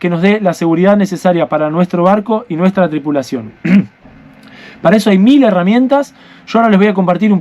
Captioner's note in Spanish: carraspeo